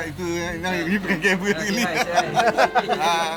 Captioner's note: laugh